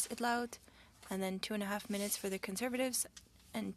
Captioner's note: speaking French